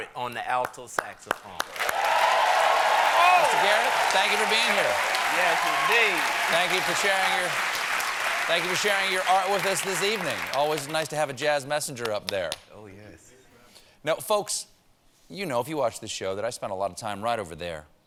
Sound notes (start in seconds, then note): 8.0 cheers and applause